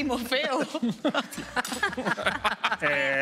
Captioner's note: laughs